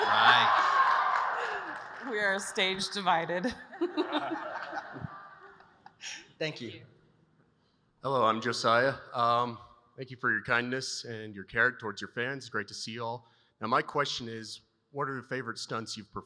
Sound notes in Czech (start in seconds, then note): 3.4 smích